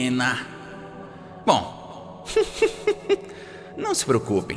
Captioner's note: laughs